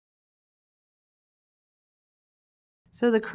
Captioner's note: silence